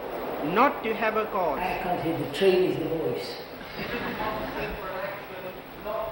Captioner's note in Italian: risate